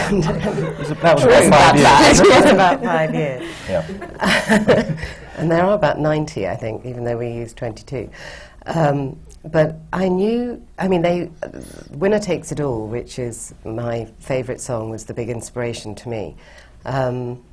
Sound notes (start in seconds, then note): 0.0 laughter; 3.2 laughs